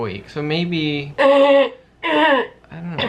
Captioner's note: clears throat